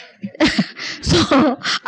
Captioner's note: she laughs